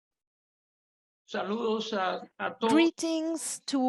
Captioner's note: speaking in Spanish